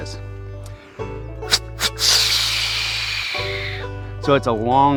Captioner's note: example Snort Wheeze Call